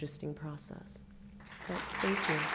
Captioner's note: applause